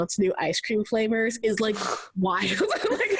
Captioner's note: laughs